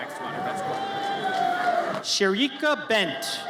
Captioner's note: audience cheers